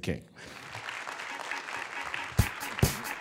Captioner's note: applause